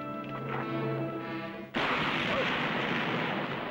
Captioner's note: gunshot